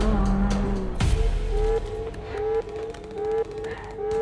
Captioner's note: alarm blaring